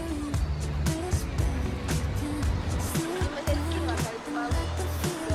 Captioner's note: laughs